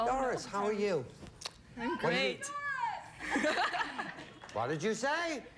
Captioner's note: audience member shouts